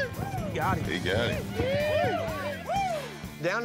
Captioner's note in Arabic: هتاف